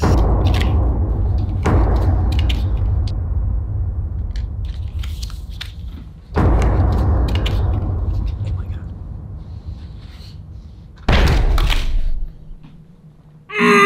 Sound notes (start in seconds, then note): 0.0 loud thud; 6.3 loud thud; 11.0 loud thud; 13.5 grunts